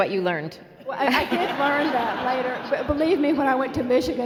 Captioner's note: laughing